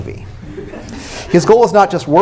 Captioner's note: laughter